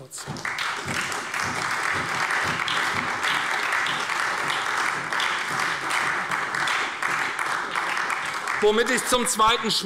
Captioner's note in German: Beifall bei der SPD